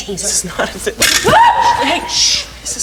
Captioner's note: Marguerite screams